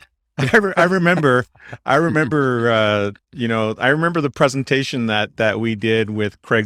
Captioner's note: laughs